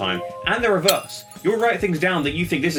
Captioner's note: glass shattering